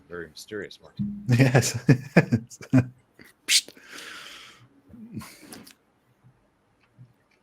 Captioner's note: laughs